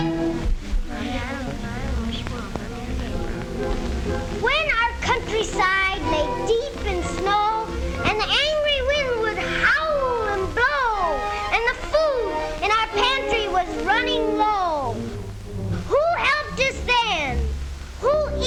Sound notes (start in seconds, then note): 1.5 gnomes chattering indistinctly